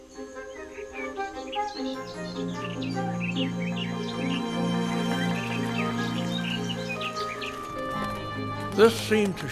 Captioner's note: chirping